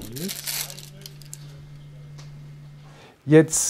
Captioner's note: crackles